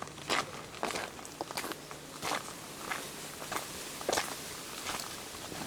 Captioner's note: crunchy gravel footsteps